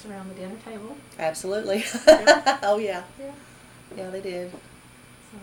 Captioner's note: laughs